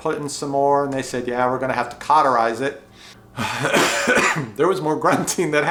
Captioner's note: sighs and coughs